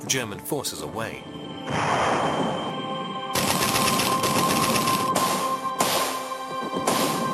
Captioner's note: guns firing; explosions